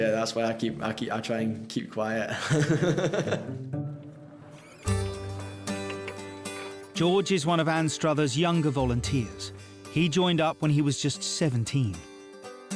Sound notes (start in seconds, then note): 2.2 laughing; 4.8 gentle upbeat music